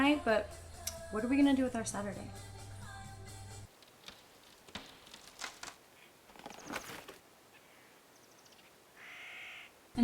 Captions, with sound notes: but what're we gonna do with our Saturday? (tree branch creaking)